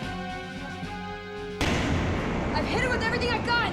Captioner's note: muffled boom